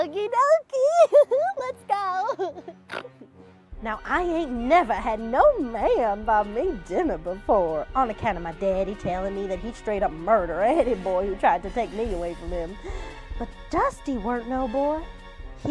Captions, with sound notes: - Okey-dokey. (giggles) Let's go. (giggles) Now I ain't never had no man buy me dinner before. On the count of my daddy telling me that he'd straight up murder any boy who tried to take me away from him. But Dusty weren't no boy.